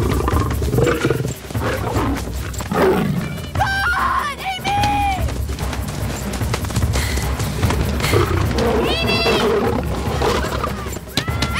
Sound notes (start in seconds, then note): 3.4 Roars